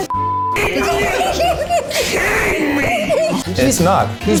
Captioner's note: all laughing; beep